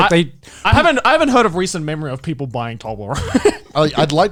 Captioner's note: laughs